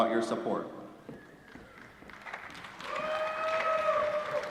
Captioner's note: applause